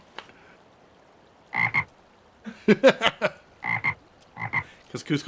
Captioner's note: ribbit, ribbit